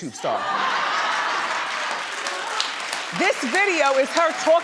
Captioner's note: audience laughing